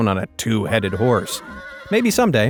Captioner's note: horse neighing